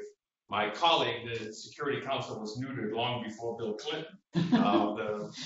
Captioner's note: laughter